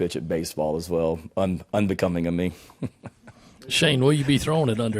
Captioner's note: laughing